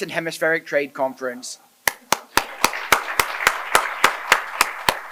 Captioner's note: applause